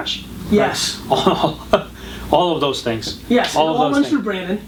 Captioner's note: laughs